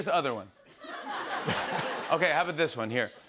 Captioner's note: laughter